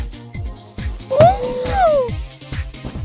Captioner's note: thump